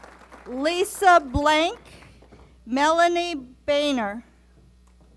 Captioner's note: applause